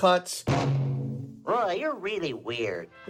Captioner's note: soundbite of tv show, "sesame street"